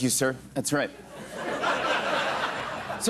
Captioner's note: laughter